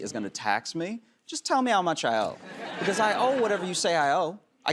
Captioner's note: laughter